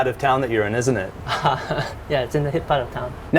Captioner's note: chuckle